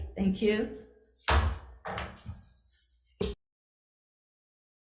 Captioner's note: gavel bangs